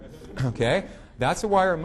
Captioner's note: audience laughing